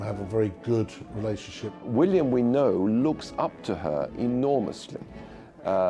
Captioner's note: voiceover